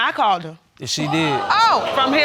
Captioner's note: audience exclaiming